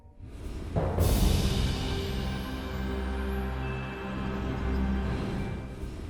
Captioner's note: soft music; wind whooshing